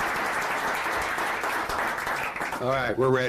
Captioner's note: applause